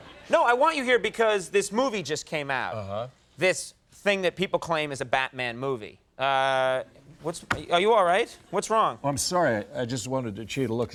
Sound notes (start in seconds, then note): none